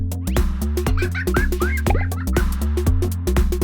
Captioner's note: laughter